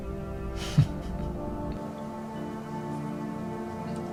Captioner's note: man chuckles